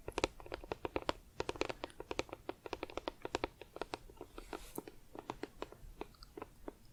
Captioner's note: tapping on plastic